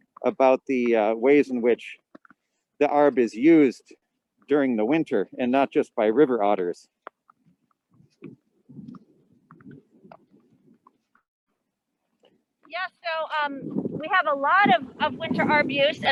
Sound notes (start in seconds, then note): 7.9 wind gusting